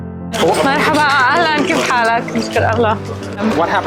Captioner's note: non-English speech